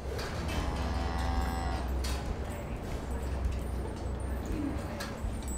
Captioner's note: cow moos